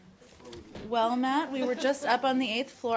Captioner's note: laughter